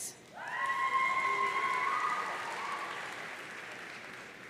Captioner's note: audience cheering